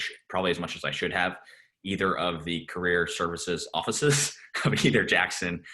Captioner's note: laughs